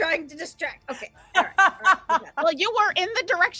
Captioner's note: laughing